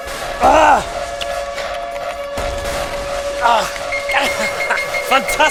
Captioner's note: typing